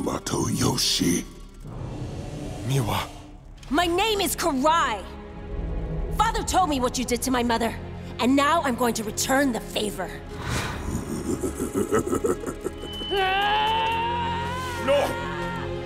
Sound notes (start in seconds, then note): 10.6 laughing; 12.5 grunting